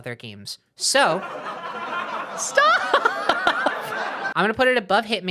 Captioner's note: sitcom laughter; laughing indignantly